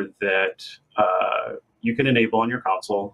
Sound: none

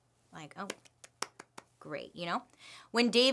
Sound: clapping

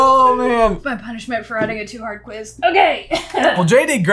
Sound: grunts

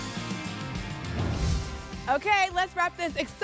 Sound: whoosh

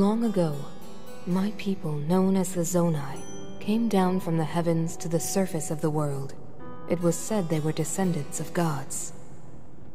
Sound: narrating

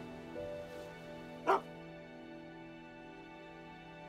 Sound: gentle music; Willamina barking; gentle music

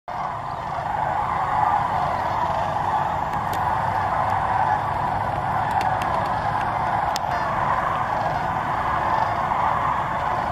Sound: sandhill cranes vocalizing

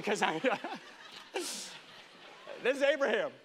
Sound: congregation laughing

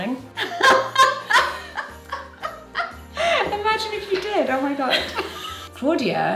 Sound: laughs

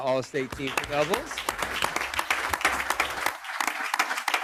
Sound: group applauds

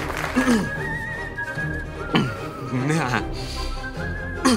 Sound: clearing throat

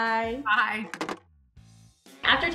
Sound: phone hangs up

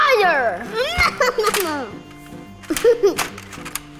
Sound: laughter

